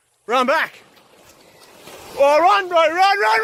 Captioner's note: water sloshing